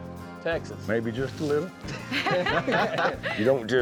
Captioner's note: all laughing